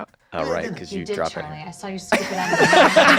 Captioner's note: laughter